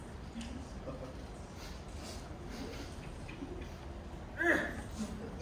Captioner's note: Grinch and Max sniffing